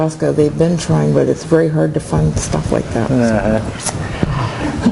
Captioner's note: laughing